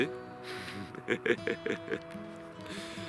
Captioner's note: laughs